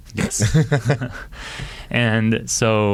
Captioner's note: laughing